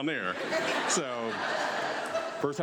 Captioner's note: audience laughs